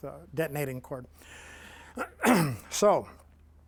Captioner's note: clears throat